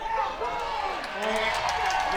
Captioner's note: crowd cheers